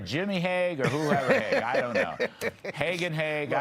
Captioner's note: laughter